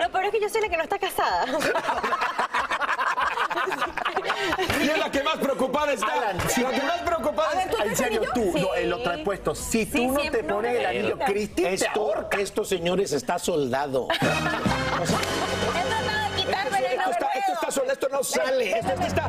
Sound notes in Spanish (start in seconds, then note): 14.0 risas